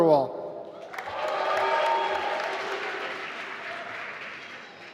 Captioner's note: applause